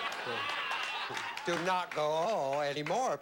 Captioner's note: laughter